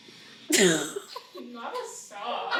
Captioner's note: laughs